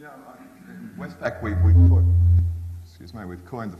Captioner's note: microphone feedback